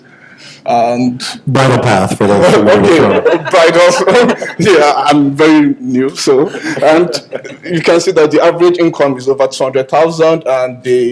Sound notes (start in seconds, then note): 4.1 laughter